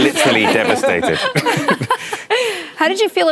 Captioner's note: laughter